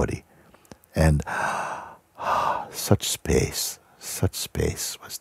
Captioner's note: βαθιά εισπνοή και εκπνοή